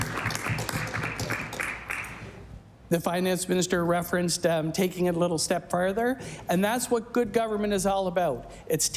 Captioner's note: applause